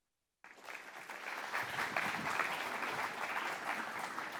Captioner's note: audience applauding